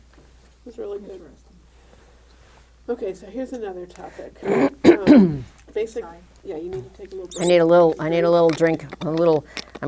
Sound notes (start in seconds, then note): 4.4 clears throat